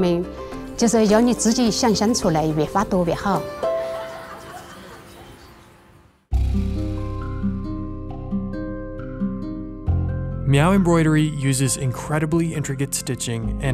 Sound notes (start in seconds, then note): 3.6 girls laughing; 6.3 soft instrumental music